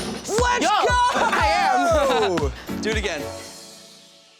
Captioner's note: laughs; upbeat music